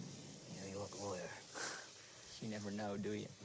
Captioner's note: sniggers